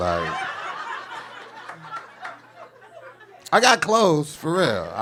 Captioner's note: audience laughing